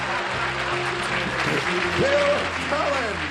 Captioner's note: laughs